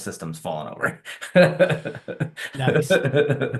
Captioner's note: all laughing